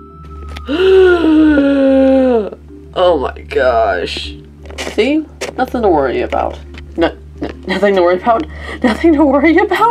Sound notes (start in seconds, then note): 0.6 Angie takes deep breath